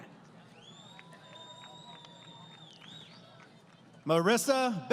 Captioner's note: applause